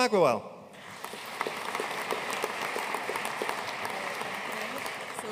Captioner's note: audience applauding